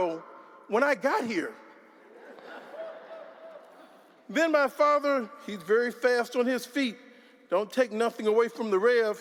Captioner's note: laughter